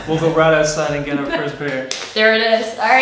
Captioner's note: laughing